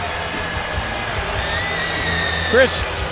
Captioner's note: crowd cheering